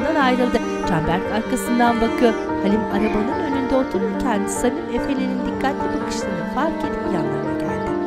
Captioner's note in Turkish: Kuş cıvıltısı sesleri